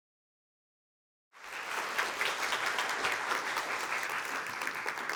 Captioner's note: applause